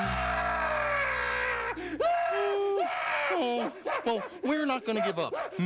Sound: crying

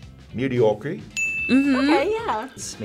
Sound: bell dings

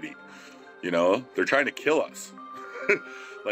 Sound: laughing

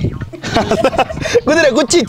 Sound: laughs

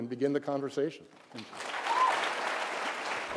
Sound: applause

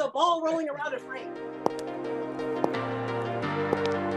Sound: sound of clicking heels

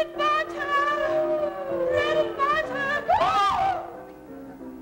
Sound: both exclaiming

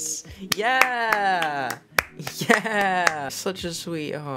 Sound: clapping

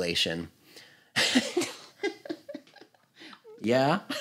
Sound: laughs

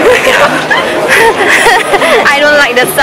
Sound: giggles

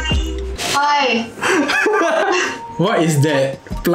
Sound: laughs

